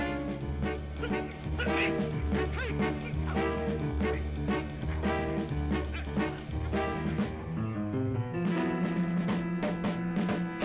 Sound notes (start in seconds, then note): 0.0 dramatic music; 1.5 Mark grunting